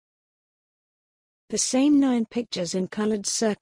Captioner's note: voiceover